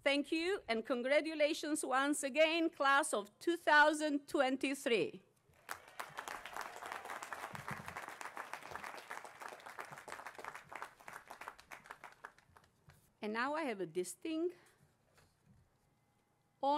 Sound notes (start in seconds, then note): 5.5 applause